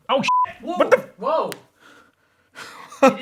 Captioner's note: beep